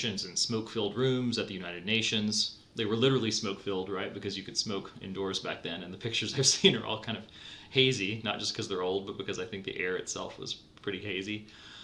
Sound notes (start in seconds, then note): 6.6 laughs